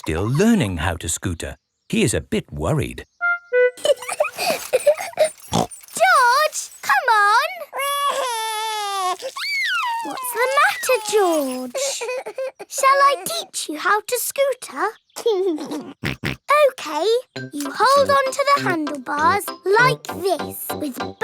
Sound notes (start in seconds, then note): 3.8 laughs and snorts; 7.5 crying; 15.4 laughs and snorts